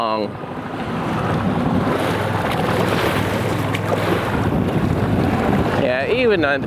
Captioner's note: boat engine roaring; waves crashing